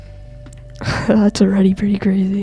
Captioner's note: laughs